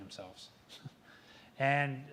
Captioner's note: laughs